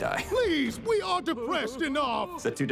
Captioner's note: chuckles; sobs